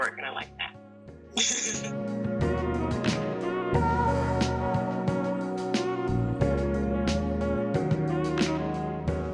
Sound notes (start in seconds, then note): 1.7 laughs; 3.0 soulful music